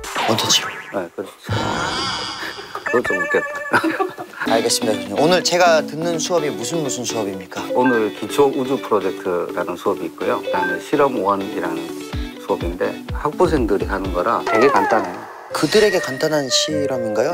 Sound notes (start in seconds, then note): 2.1 sudden laughter; 3.5 laughter